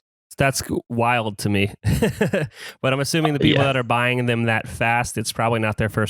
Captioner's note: laughs